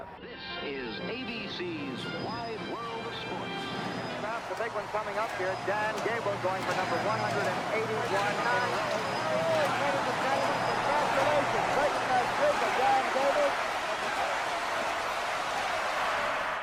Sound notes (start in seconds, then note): 0.2 intro music; 4.3 announcer's voice; 13.6 crowd chanting